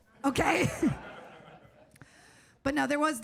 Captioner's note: audience laughs